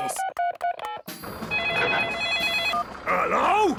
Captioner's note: phone ringing; phone beeping